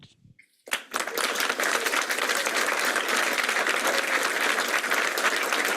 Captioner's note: applause